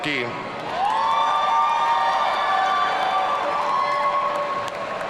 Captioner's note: audience cheering